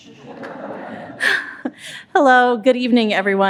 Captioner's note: audience laughing